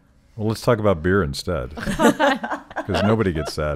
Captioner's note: laughing